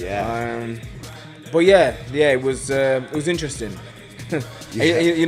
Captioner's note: laughs